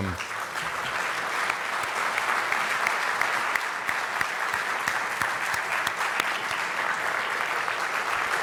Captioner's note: applause